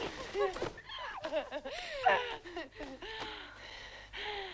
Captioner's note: both laughing; both breathing heavily